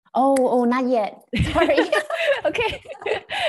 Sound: laughs

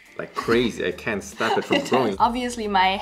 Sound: laughs

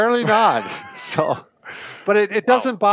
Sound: laughs

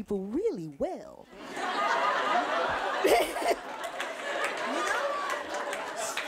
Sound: audience laughing

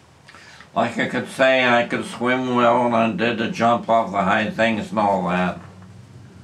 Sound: coughs

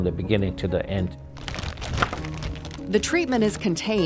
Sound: plastic rustling

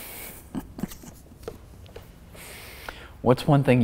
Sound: laughing

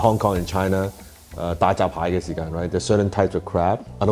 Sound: speaking foreign language

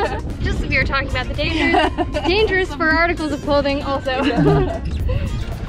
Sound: laughs

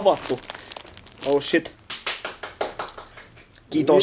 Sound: clapping

